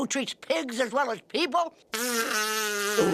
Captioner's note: snorting